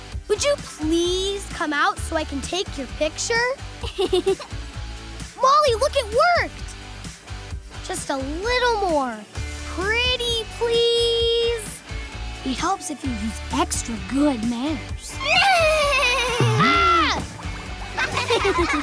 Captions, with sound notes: Would you please come out so I can take your picture? [laughing] Molly, look, it worked! Just a little more. Pretty please? It helps if you use extra good manners. [screaming] [laughing]